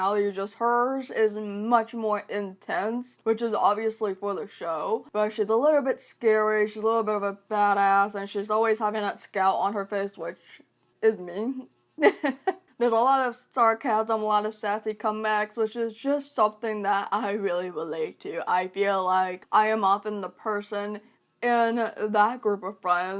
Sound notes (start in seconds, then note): 12.0 laughs